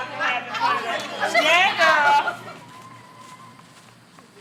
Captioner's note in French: Rires et discussion